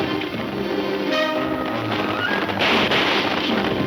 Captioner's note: gunfire pops